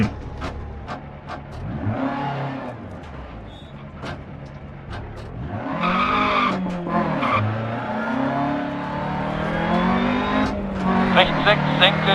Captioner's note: engine sounds and co-pilot's instructions